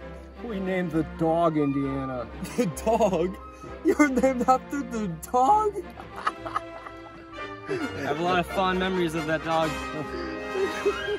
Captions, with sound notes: We named the dog Indiana. The dog!? You're named after the dog?! *laughing* I have a lot of fond memories of that dog.